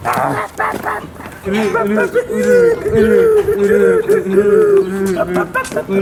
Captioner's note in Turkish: horoz kavgası sesleri